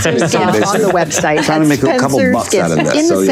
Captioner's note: Will laughing